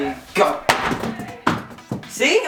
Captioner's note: clattering